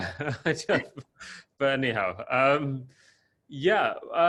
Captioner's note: laughs